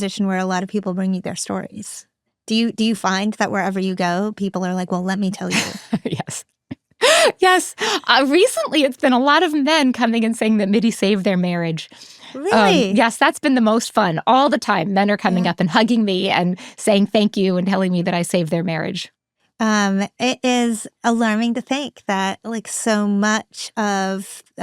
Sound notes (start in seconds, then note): 7.0 laughs